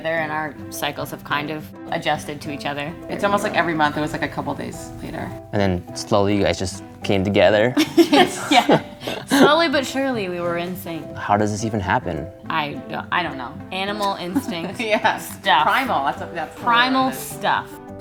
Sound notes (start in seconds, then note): 7.7 laughing